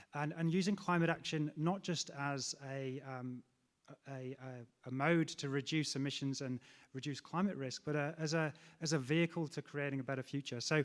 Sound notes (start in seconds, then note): none